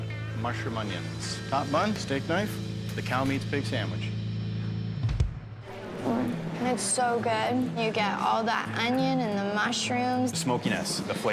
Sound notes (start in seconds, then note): 6.3 hums